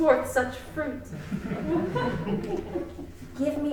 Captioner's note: crowd laughing